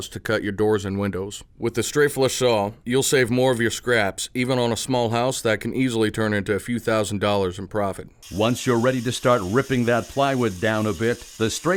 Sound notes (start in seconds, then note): 8.5 voiceover